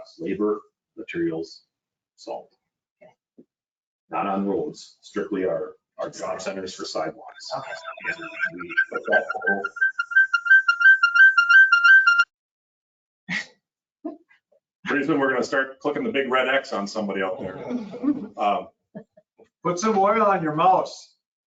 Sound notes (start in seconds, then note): 10.1 feedback screeching